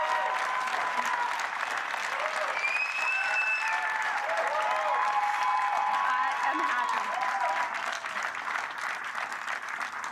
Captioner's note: cheers and Applause